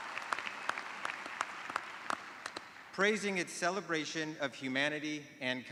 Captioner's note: applause